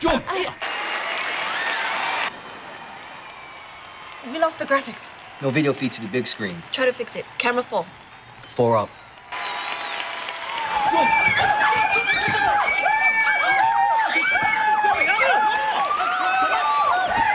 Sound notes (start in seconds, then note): 0.2 crowd cheering; 9.0 crowd cheering; 10.2 screaming; 16.8 screaming